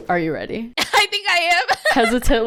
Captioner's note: laughs